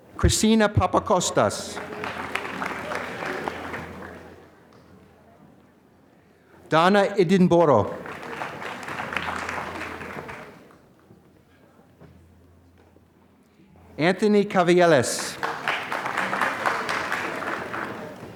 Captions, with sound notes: Christina Papacostas. (applause) Donna Edinboro. (applause) Anthony Cavieles. (applause)